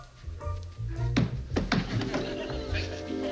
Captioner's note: banging